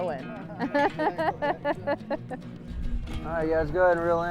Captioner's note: laughing